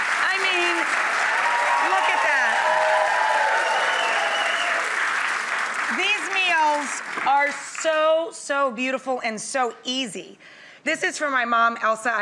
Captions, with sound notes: I mean, look at that. (audience cheering) These meals are so, so beautiful and so easy. This is from my mom, Elsa,